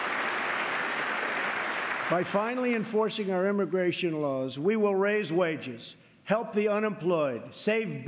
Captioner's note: applause